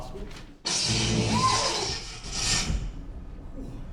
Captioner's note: electical fault sound